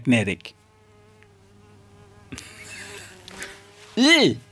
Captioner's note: insect flying in background